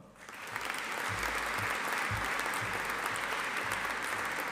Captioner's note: audience applauding